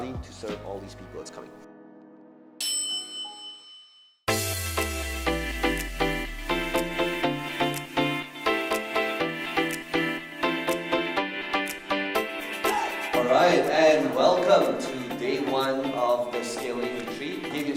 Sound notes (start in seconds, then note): 2.6 elevator dinging; 4.3 electronic music